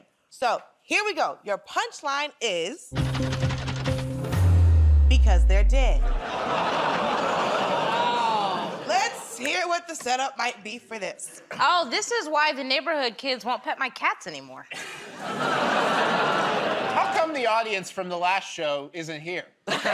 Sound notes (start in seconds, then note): 6.2 laughter; 14.8 laughter, groaning